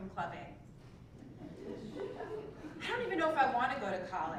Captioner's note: laugh